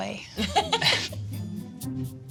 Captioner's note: both laugh